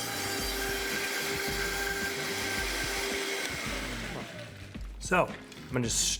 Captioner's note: blender screeching